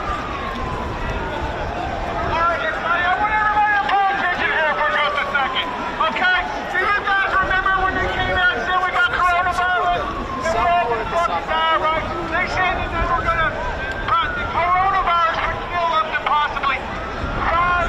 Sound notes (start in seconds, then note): 3.3 crowd noise